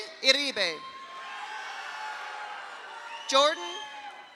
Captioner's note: audience cheers; audience applauds